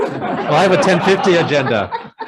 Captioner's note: group laughs